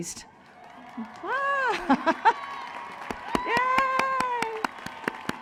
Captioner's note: cheering